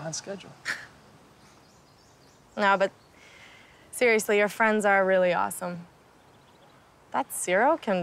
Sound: chuckles

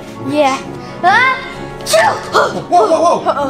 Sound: sneezing

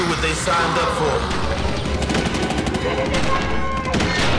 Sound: guns blasting

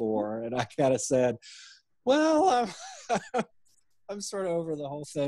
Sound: laughing

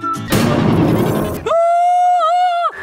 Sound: screaming

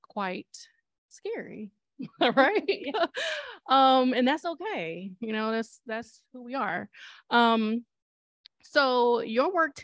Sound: laughter

